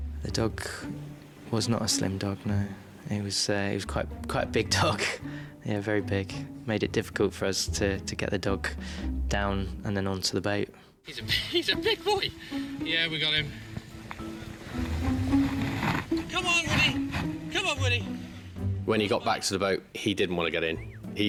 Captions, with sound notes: The dog was not a slim dog, no. He was quite a big dog. (chuckling) Yeah, very big. Made it difficult for us to get the dog down, and then onto the boat. - He's a big boy. Yeah, we got him. (playful music) Come on, Woody! Come on, Woody! - When he got back to the boat, he didn't want get in,